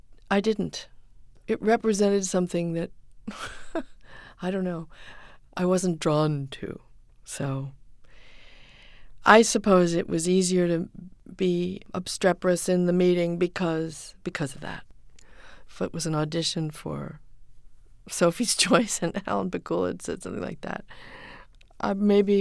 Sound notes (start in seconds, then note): 3.3 soundbite of laughter